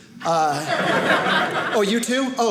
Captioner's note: audience laughing